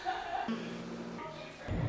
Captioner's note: distant laughter; fans whirr; groans softly